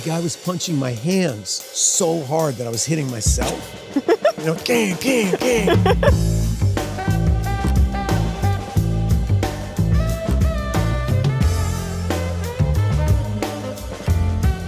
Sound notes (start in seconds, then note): 3.9 Sydney laughs; 4.9 imitates a punch; 5.8 upbeat music